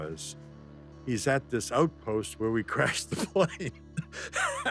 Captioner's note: laughs